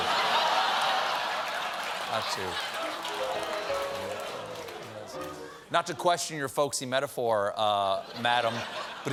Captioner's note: laughter